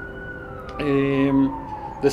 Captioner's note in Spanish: Sonido de sirena de patrulla